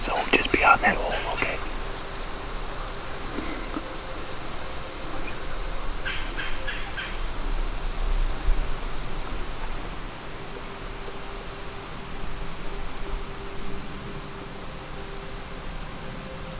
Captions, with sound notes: So just be on that, okay? (birds chirp) (quiet tense music)